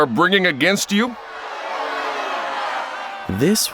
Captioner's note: crowd yelling